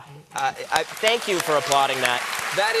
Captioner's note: applause